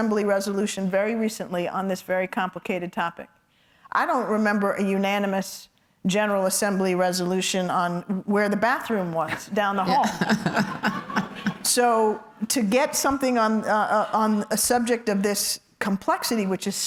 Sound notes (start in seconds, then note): 9.7 laughs